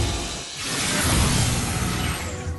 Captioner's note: whoosh